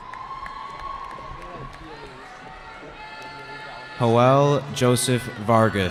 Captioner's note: cheering